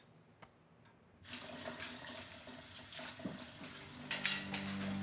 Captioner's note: water splashing; foreboding orchestral music